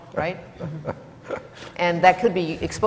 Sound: laughs

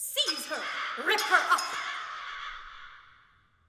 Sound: crows, breaking glass

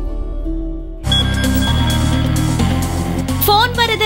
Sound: phone rings

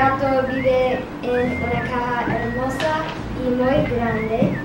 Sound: speaking Spanish

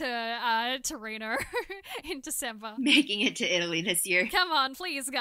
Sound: laughter

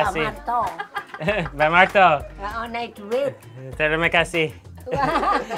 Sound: woman in background laughing

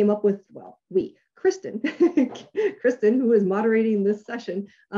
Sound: laughs

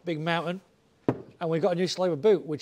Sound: bottle thumps on table

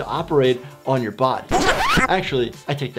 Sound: record scratching

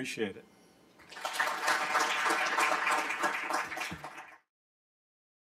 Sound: applause

